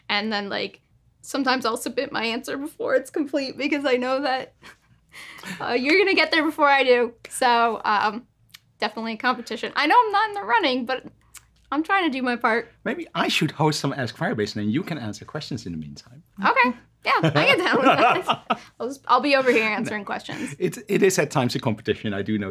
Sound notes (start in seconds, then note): 17.1 laughter